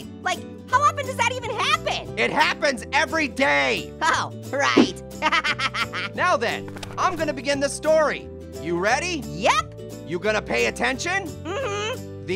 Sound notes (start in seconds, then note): 5.2 laughing